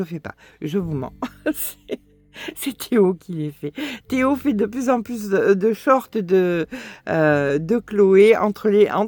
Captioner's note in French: rires